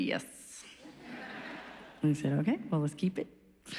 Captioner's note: laughs